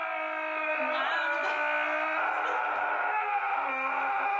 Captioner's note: laughs